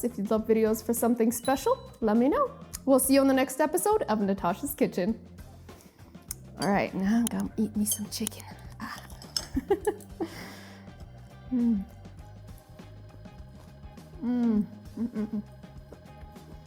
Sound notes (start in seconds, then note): 9.4 laughs